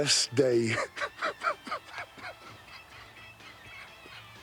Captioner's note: laughing